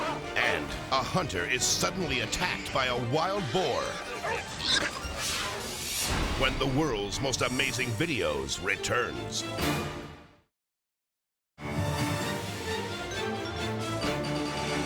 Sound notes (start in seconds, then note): 3.8 boar squealing; 11.6 adventurous music